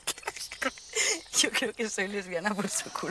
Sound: laugh

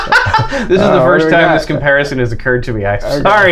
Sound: laughter; laughter

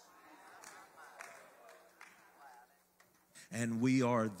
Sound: congregation murmurs

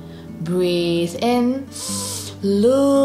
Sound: breathes in deeply

